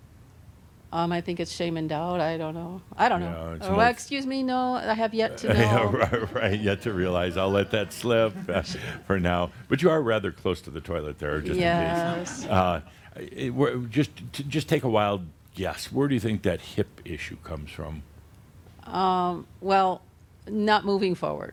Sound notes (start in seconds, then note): 5.4 Adamus chuckles; 12.8 some chuckles